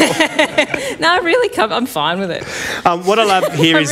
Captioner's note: laughs